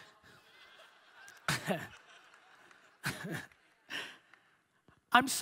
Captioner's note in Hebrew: הקהל צוחק